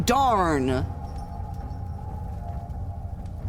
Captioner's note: chains rattling